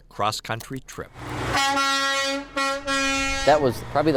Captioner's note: sounds of honking